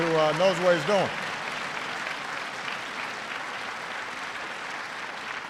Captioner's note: audience applauds